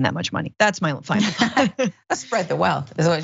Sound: laugh

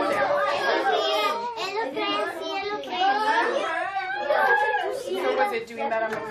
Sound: student Noise

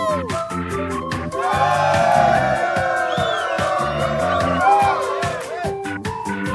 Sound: cheers

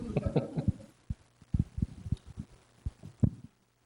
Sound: chuckles

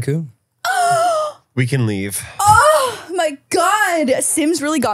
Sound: gasps

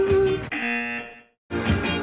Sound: buzzer

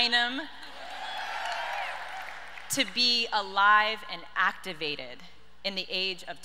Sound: audience cheers

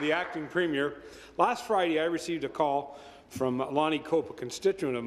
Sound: applause

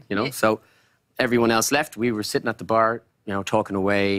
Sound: none

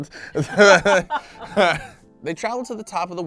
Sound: both laughing

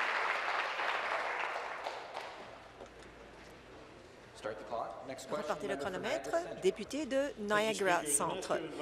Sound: applause

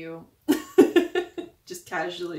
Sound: laughing

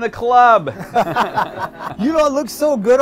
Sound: both chuckle

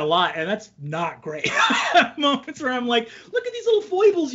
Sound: laughs

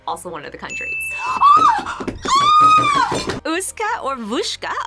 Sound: bell rings; screams

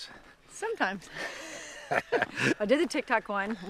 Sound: laughs

